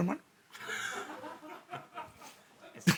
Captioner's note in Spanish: Risas